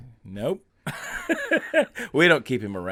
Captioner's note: laughing